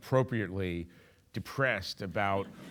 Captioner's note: audience laughing